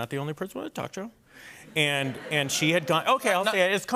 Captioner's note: laughter